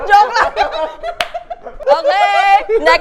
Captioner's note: laughs